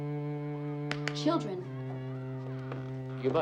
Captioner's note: claps hands